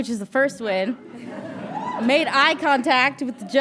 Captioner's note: audience laughing